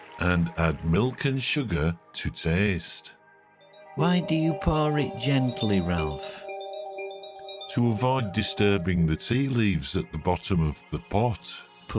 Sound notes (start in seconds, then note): 6.4 bells tinkling